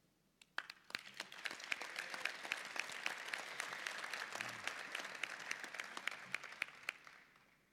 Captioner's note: applause